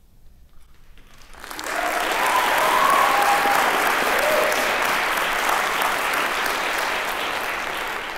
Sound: applause

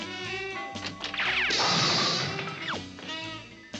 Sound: crash

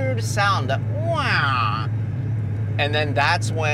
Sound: imitates engine revving

